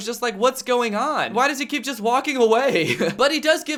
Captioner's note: laughs